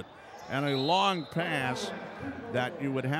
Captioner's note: whistle blows